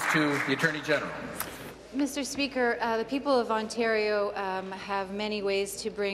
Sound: applause

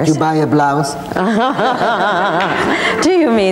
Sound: laughing

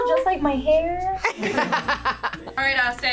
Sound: laughs

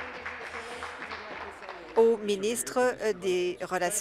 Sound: applause

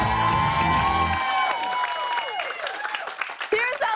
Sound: cheers and applause

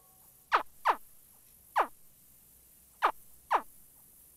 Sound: creature smacking

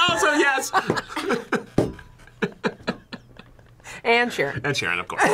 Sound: both laugh

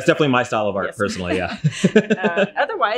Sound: laughing

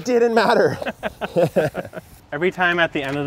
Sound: all laugh

